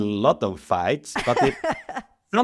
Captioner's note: laughs